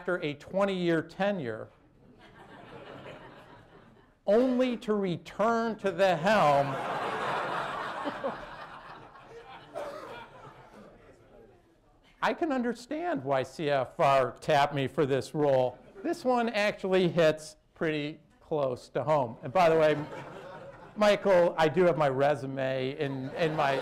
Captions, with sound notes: a twenty-year tenure, only to return to the helm. (LAUGHTER) I can understand why CFR tapped me for this role. This one actually hits pretty close to home. And, by the way, Michael, I do have my resume in my...